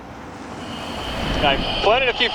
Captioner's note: jet whooshing